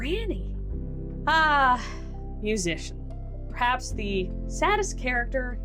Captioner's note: sigh